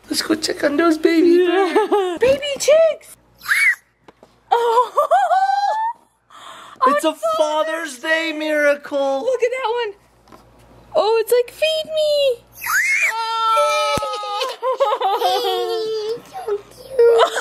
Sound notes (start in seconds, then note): 1.4 laughs; 3.5 group exclaiming; 12.6 exclaiming